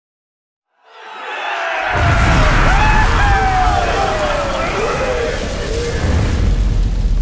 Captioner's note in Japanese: 歓声